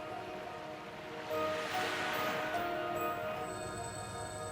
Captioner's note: water splashing